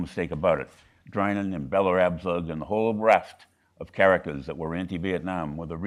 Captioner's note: speaking faintly